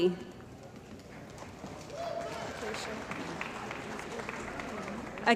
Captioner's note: cheering & Applause